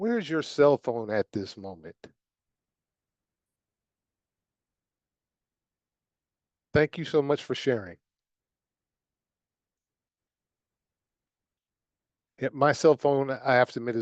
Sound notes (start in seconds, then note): 7.2 silence